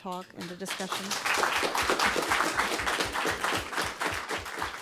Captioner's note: audience applauding